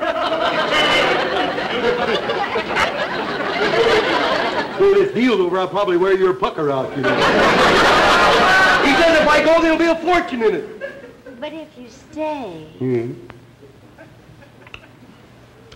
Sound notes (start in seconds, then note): 0.0 audience laughter; 6.8 audience laughter